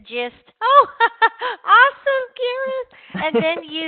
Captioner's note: laughs